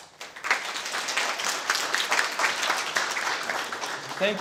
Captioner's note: audience clapping